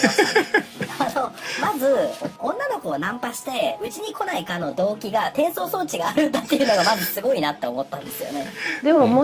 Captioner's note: laughs